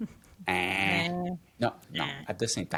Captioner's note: both grunts